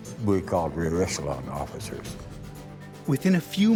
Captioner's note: voiceover